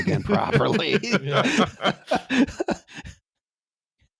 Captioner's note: laughter